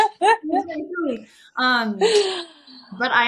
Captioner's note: laughing